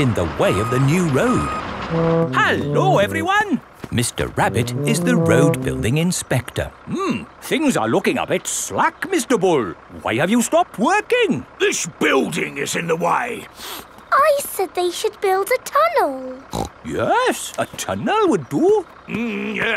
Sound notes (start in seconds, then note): 13.6 sniffs; 16.5 snorts